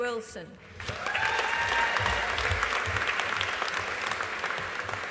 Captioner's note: audience applauding